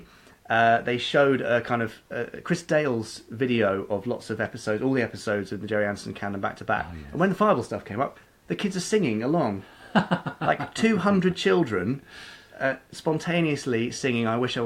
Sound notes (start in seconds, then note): 9.8 laughing